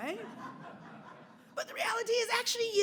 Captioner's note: audience laughs